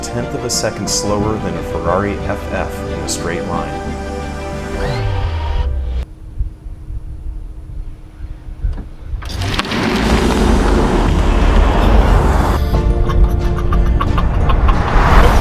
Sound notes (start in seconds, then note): 4.8 hydraulic sound; 9.5 zoom!; 11.4 whoosh!; 14.6 fwoof!